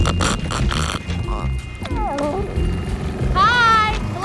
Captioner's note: crunching; whimpers